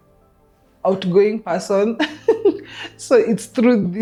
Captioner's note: laughs